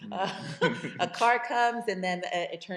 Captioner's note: chuckles